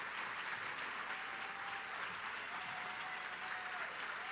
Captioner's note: applause and cheering